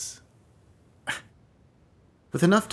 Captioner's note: scoffs